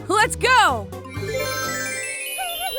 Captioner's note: shimmer